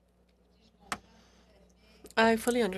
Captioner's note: speaking French